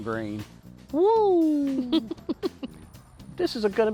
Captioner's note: chuckles